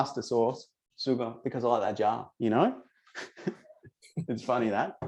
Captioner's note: chuckles